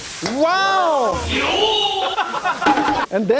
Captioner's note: wine sizzling; audience laughing; wine sizzling